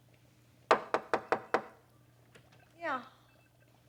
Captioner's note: knocks at door